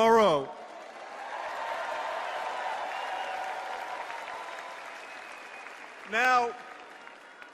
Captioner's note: cheers and applause